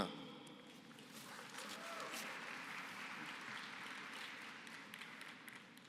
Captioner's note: applause